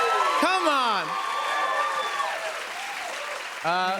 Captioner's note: cheers and applause